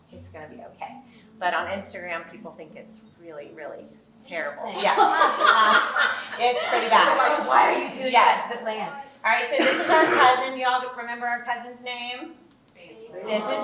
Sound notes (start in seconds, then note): 4.7 laughing